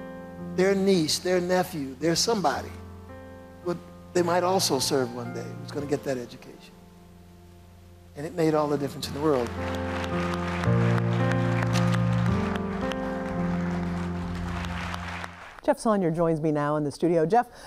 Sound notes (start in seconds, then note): 8.6 audience clapping; 10.0 soft music